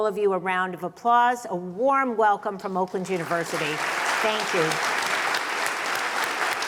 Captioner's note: applause